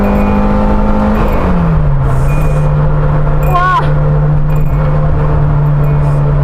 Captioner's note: classic Ding Ding